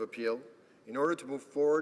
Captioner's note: speaking French